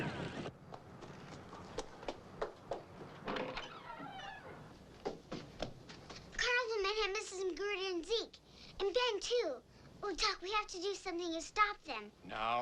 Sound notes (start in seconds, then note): 1.9 feet clomping; 3.2 door creaks